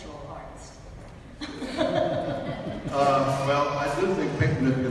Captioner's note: audience laughs